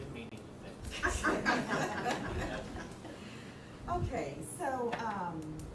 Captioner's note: audience laughing